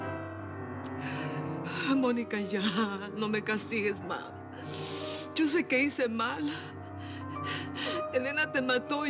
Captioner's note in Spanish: sollozos